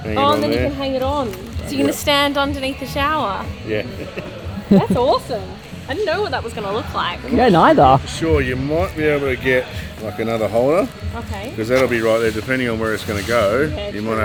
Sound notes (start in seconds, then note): 3.6 laughs